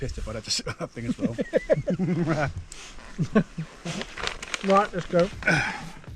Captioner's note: both laughing